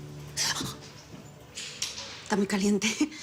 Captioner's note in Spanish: Grito ahogado